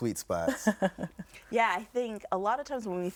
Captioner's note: laughs